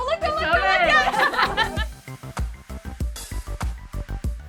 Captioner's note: all laughing